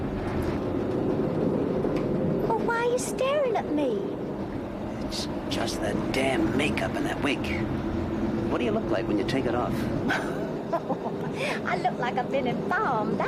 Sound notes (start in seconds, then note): 10.1 laughing